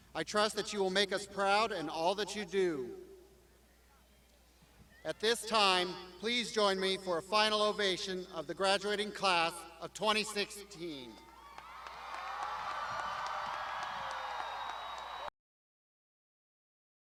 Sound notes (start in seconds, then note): 11.3 crowd applauding